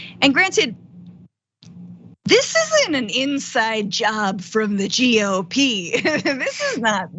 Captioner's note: laugh